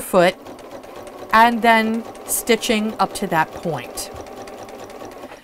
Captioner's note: sewing Machine Sounds